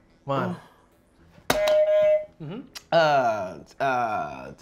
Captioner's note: buzzer beeps